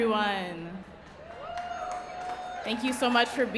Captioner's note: audience cheering